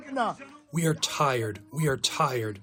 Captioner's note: through translator